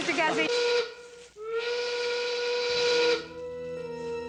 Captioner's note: factory horn blasts